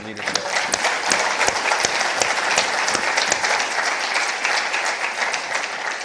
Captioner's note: and participants applauding